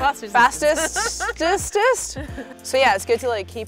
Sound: laughs

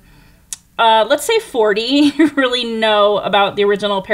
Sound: chuckles

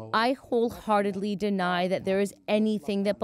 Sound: speaking Foreign Language

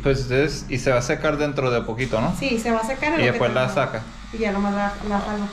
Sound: speaking in Spanish

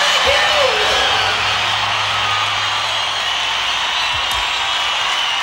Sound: audience cheering

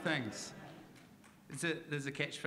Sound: audience laughing

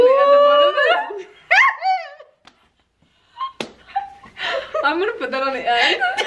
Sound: laughing

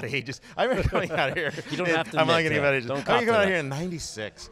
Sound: both laugh

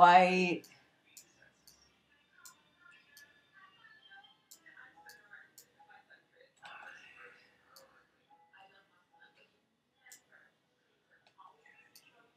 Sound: clicking and TV in the background

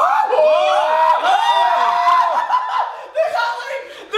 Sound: screams

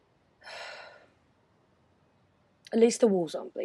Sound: nyx sighs

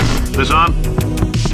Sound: thumps on the microphone

